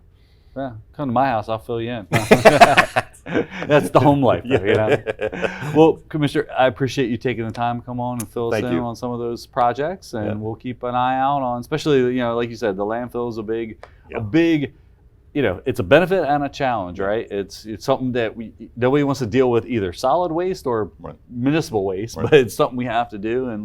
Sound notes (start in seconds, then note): 2.1 laughing